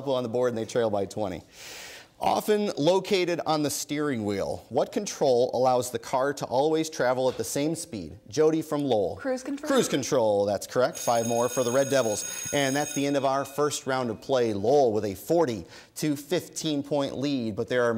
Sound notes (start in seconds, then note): 10.8 bell ringing